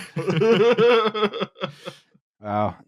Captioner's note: laughter